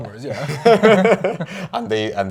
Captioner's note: both laugh